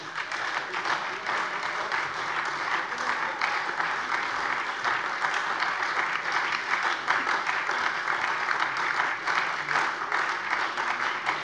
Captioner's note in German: Anhaltender Beifall SPD - Vereinzelter Beifall Freie Demokraten und DIE LINKE